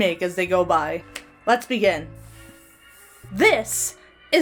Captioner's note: Hana claps hands